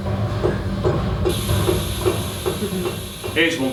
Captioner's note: SFX - Metal in water